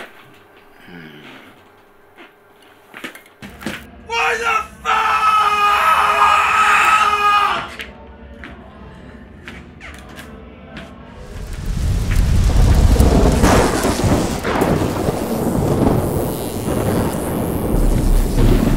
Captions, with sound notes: Hmmm. Why the fuck? (faint upbeat music) (fire rumbling) (thunder rumbling) (electrical fizzling)